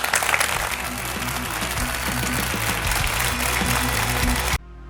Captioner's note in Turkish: alkış